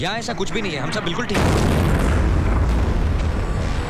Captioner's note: Explosion